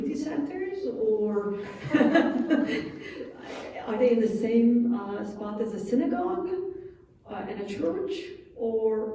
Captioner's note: laughs